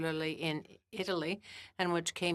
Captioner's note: speaking French